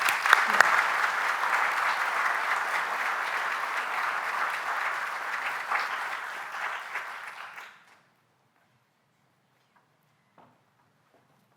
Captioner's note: applause